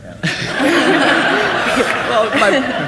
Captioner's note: audience laughs